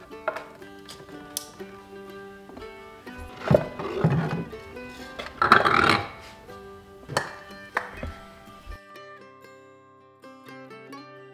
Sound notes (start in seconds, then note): none